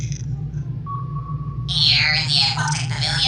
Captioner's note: ping